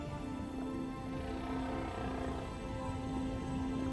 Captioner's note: whales groaning